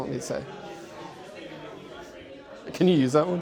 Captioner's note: people talking in the distance